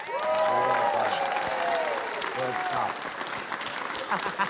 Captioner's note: cheering, applause